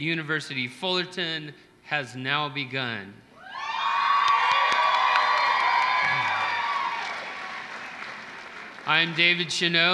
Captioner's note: applause